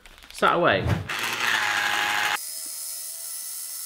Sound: whirring

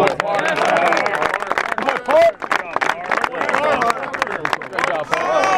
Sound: cheers

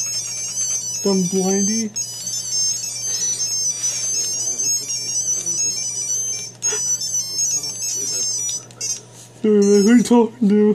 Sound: laughs again

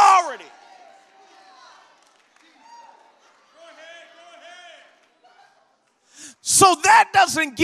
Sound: congregation shouts

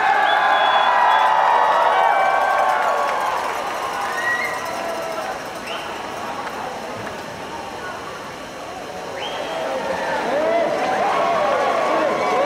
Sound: cheers and applause

